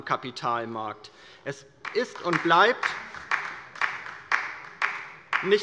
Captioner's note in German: Beifall bei der LINKEN